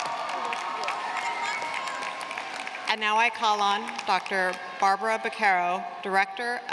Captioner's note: applause